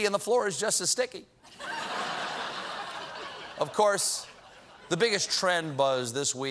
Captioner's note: laughter